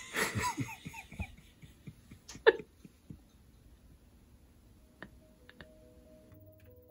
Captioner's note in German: lacht